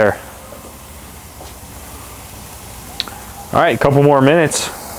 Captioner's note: filets searing